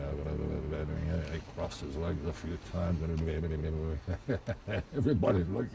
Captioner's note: chuckles